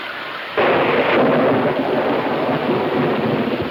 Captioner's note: thunder claps